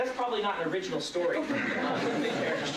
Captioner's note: laughter